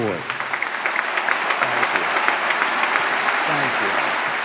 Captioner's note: audience clapping